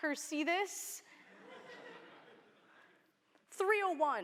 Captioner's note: laughter